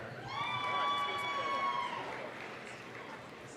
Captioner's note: applause, cheering